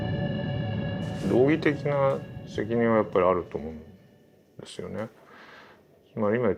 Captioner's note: speaking in Japanese